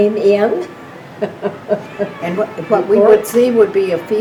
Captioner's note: laughing